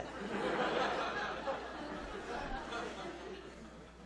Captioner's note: audience laughing